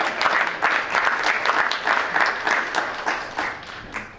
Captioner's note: clapping